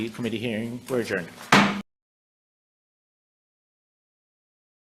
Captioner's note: gavel bangs